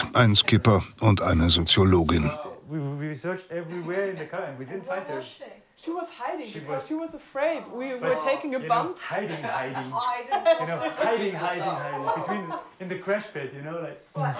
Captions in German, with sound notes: Ein Skipper und eine Soziologin. We searched everywhere, and we didn't find her. She was hiding! She was afraid. We were taking a bump ... (Lachen, unverständliches Gespräch)